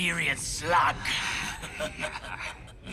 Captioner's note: laughing